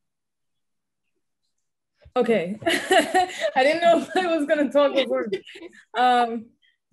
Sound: all laughing; laughing

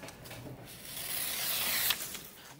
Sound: strip scrapes

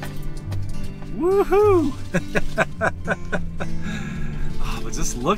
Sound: laughter

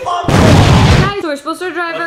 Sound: explosion

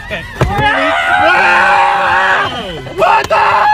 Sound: both nerds scream in greeting

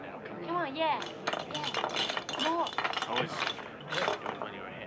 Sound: people chattering

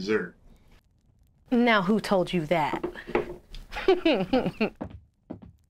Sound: giggles

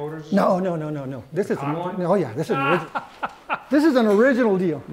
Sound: laughs

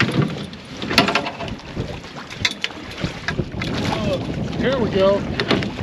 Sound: clattering

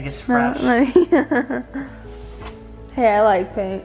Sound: laughs

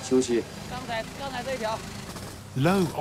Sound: speaking Tibetan

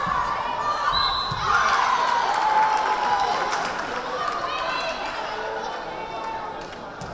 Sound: crowd cheering; whistle blaring

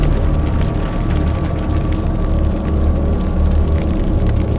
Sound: intense whooshing; fire crackling

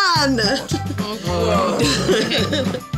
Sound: upbeat music; group In Unison

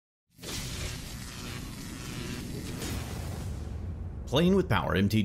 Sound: electricity crackles

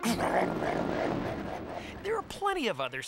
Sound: car growling

